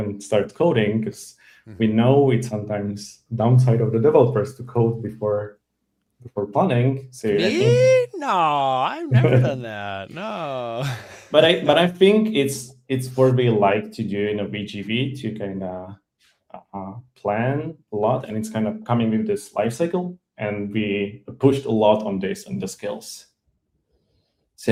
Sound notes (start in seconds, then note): 10.7 laughs